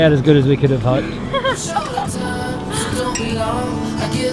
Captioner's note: laughs